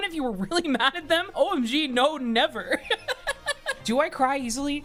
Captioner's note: laughs